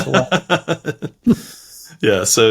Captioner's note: laughs